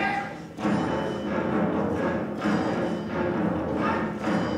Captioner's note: performers chant